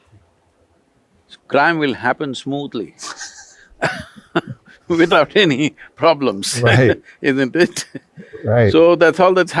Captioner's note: laughs